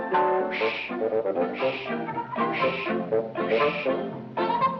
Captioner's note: ales whooshing